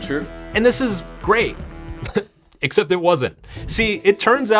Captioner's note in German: lacht